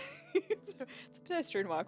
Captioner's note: laughing